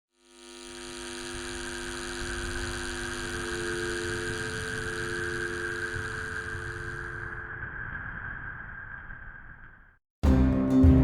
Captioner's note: sound: buzzing and a telephone busy tone fades in and out